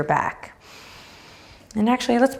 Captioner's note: breathing deeply